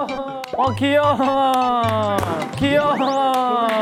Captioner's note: throbbing heart